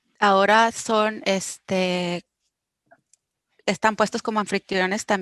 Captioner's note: speaking foreign language